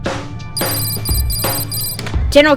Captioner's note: device ringing